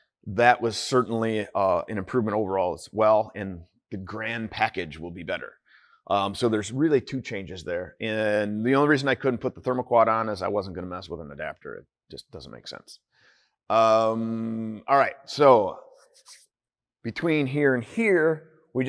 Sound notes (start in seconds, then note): none